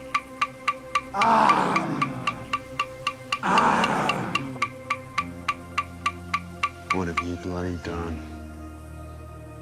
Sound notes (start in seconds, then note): 1.1 crowd moaning